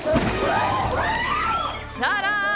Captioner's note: kids screaming